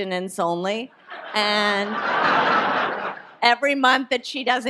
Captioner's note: audience laughs